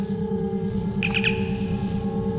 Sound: comm chirp

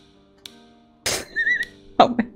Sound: wheeze

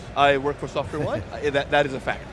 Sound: chuckle

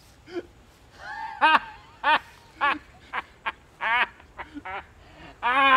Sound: cruel laughter

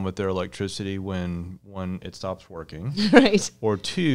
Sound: chuckles

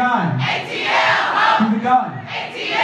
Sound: crowd

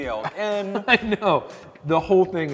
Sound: chuckles

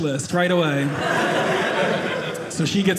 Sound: audience laughing

